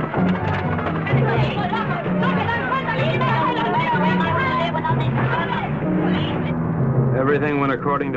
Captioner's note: men speaking in Spanish